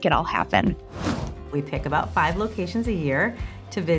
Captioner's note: air whooshing